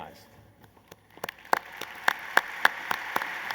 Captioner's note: applause